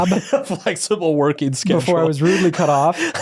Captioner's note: laughs